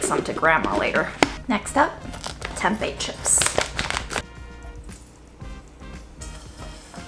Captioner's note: plastic crinkling; oil sizzling